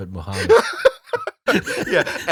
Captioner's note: laughter